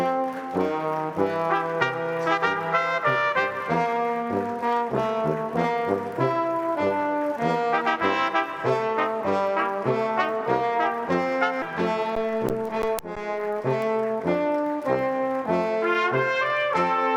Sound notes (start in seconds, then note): 0.8 applause; 4.6 stately music